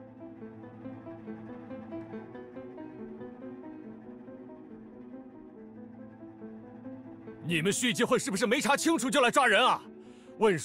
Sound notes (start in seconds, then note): none